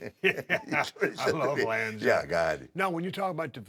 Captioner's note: laugh